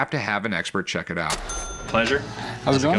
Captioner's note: cash register chiming